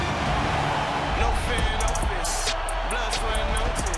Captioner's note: cheers and applause